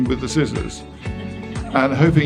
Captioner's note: audience laughing